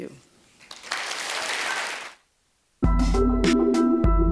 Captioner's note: applause; bright, ambient tonal music